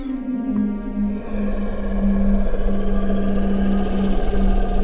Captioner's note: Distant Bigfoot growling